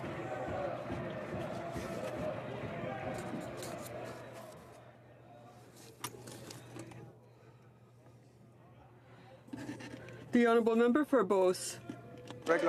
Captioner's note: some Applause